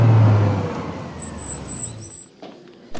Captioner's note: Car Halts